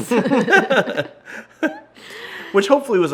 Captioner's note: laughing